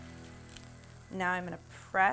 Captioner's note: pan sizzles